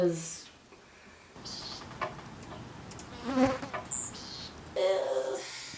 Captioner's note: flies buzzing